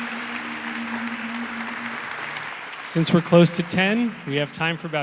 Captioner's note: audience applauds